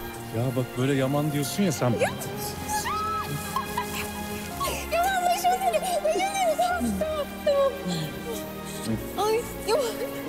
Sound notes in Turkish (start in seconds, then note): 2.8 Gülüyorlar